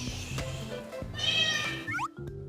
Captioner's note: meow